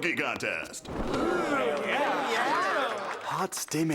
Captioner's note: audience exclaiming excitedly